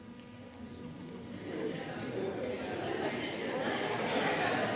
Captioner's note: audience chattering